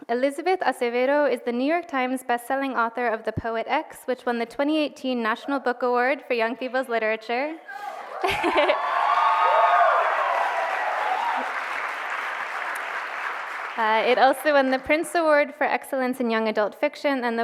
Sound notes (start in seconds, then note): 8.0 cheers and applause